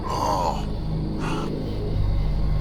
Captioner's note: Roy groaning in pain